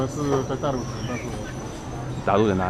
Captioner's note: mandarin